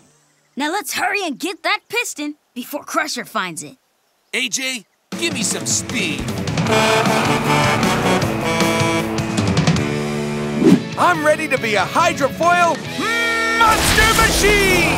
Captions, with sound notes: Now let's hurry and get that piston before Crusher finds it. AJ, give me some speed. [truck horn] I'm ready to be a hydrofoil monster machine!